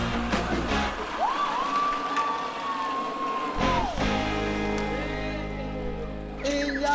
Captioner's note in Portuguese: gritos animados